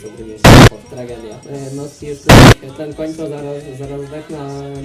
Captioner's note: sarcastically